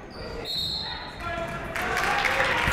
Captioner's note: whistle tweeting; crowd clapping